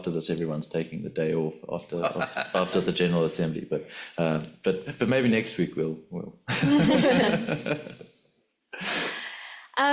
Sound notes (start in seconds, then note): 6.6 laughs